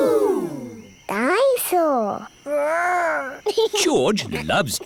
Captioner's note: giggles